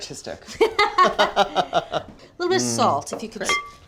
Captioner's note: both laughing